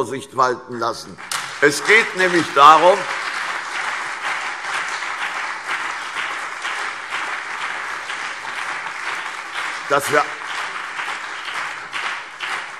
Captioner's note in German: Beifall CDU und BÜNDNIS 90/DIE GRÜNEN